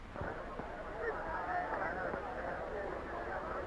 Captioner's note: chattering